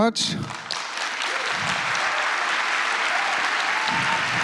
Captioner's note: applause